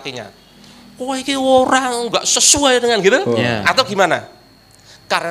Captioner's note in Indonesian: menggerutu